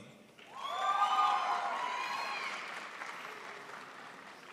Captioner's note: crowd applauds